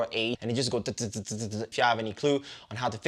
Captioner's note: makes choppy, buzzing noise